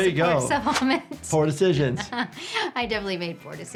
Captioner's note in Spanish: se ríe